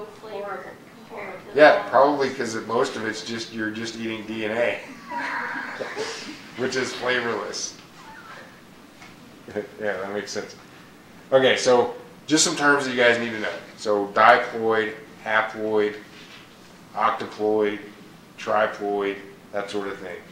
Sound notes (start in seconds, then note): 4.9 chuckle